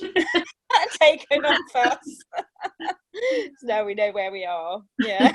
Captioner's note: laughter